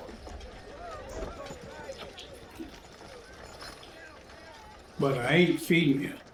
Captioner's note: people chattering